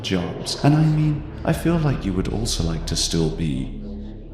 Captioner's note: none